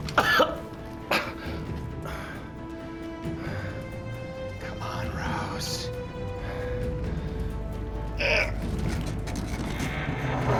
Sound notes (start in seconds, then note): 0.0 coughing; 1.1 breathing Heavily; 8.2 grunts